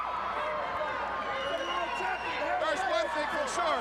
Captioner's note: crowd cheering